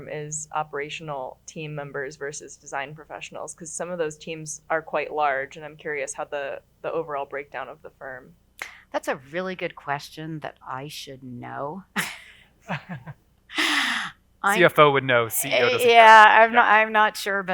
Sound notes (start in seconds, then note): 12.7 laughs